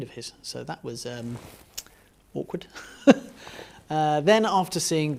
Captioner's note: chuckles